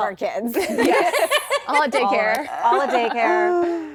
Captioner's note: laughter